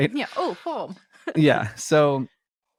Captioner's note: both laughing; laughs